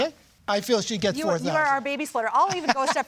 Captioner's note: he laughs